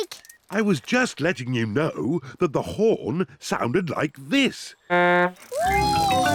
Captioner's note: honks horn